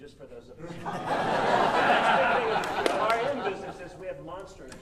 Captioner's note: audience laughing